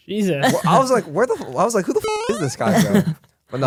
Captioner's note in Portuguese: risos